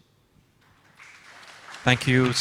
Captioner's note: audience applauds